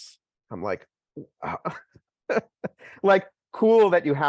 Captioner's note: laughs